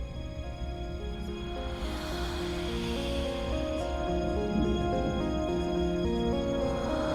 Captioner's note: dark, menacing music; disembodied whispers